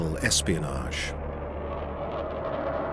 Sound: jet engine roars

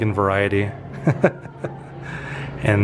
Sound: laughter

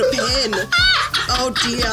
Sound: group laughing

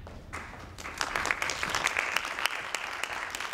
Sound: audience claps

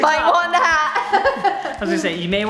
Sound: laughs

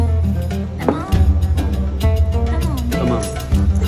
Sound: in Arabic

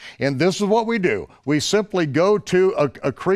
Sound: none

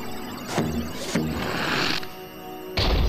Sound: suction noise

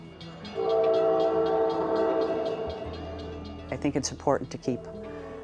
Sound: bell clanging, train whistle blows

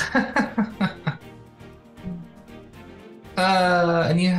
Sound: laughs

